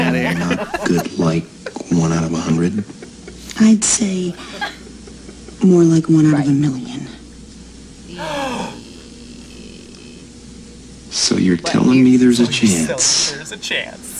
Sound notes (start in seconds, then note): 0.0 group laughs; 3.1 both laugh; 8.1 gasps